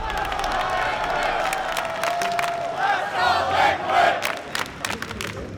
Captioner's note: ”Let’s go Liquid” Chants